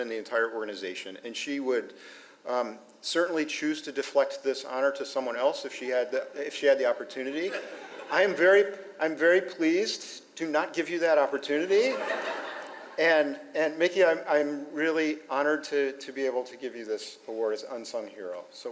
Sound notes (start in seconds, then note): 7.4 audience laughs; 11.8 audience laughs